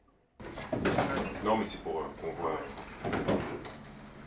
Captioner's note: speaking French